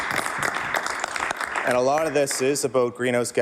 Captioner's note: some Applause